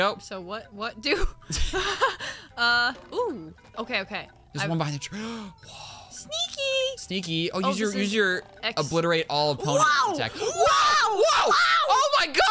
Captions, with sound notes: - So what… what do? Uhhh… ooooh Okay okay - There’s one behind the tr- *gasp* - Sneakyyyyy - Sneaky. Oh use your obliterate all opponent attack - WOAH WOAH WOAH